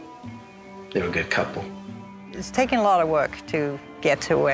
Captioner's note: none